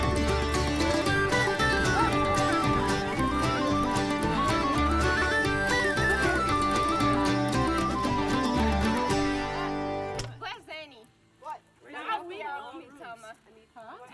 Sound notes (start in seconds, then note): 5.5 guests chattering